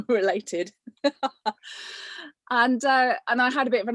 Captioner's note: laughs